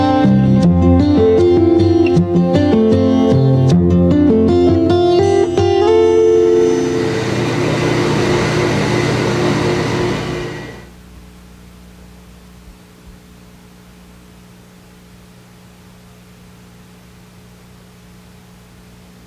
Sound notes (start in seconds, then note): 7.4 machines buzzing